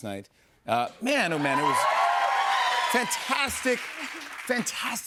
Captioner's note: audience cheers